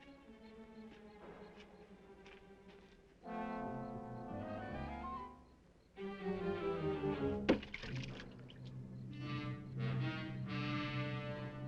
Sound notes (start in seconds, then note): 0.0 insects chirping; 3.9 dramatic music